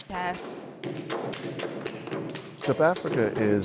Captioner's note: stomping and clapping